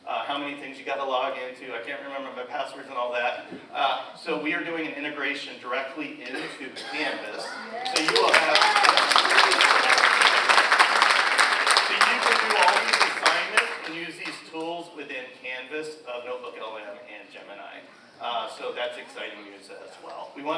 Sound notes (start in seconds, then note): 8.9 audience applauds